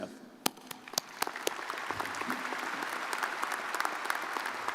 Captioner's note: crowd applauding